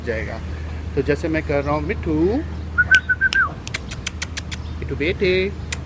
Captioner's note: whistling